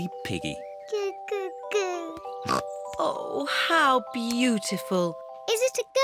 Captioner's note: snorts